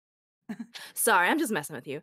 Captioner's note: giggles